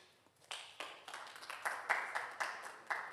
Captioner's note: audience Applauding